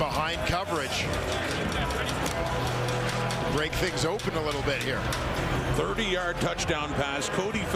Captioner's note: crowd Noise